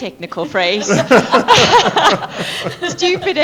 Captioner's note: laughter